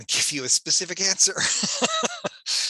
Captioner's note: laughs